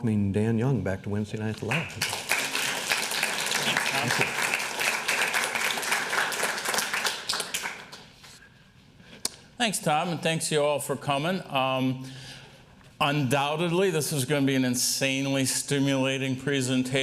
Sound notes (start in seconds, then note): 1.6 applause